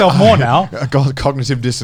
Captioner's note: Joey laughing